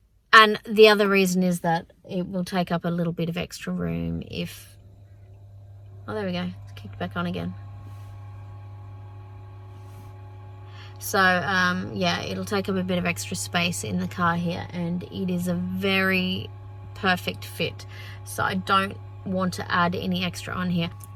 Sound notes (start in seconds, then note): 4.9 compressor hums quietly; 7.9 compressor changes pitch as it ramps up slightly